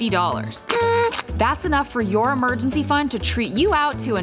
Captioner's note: blows party horn